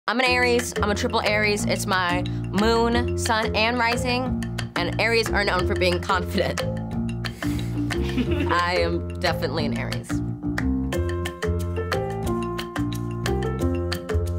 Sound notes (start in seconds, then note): 6.8 bright music; 7.9 chuckling